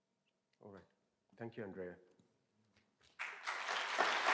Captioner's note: applause